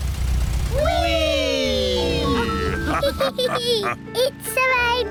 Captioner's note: all laugh